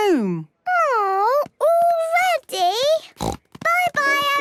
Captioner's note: snort